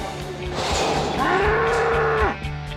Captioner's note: bull bellows